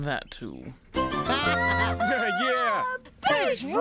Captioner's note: cheering